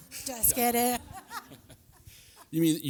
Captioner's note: laughter